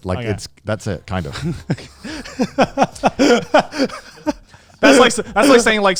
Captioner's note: laughs